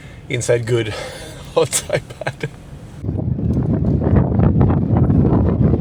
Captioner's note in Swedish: skratt